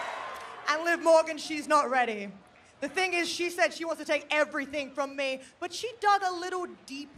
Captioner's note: cheering